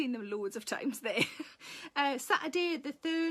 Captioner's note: Sarah laughs